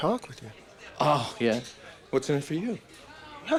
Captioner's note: scoffs